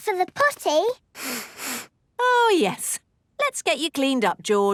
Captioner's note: sniffs